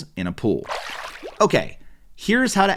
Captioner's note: water splashing